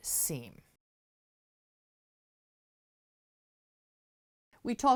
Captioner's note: no Sound Present